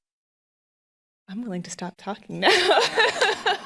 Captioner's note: laughing